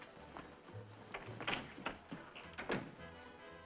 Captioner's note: door opening & closing